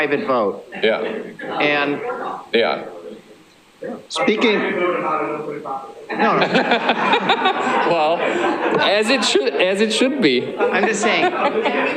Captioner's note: laughter